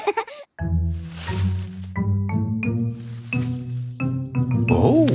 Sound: all giggle; bush rustling

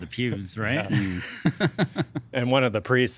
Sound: laughing

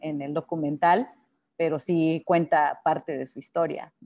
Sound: speaking Spanish

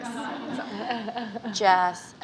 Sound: laughing

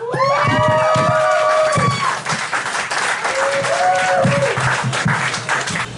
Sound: audience cheering and whistling

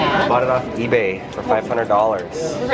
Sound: voiceover

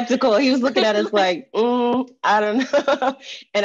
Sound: laughing

